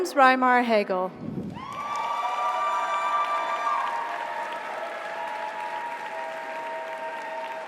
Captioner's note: audience applauds; audience cheers